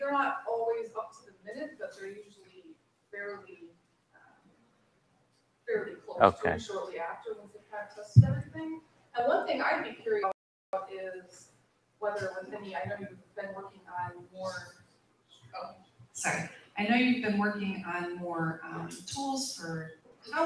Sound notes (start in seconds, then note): 9.3 off microphone